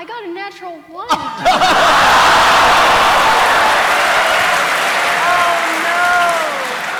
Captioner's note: laughter